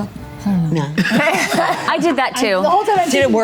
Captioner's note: group laughs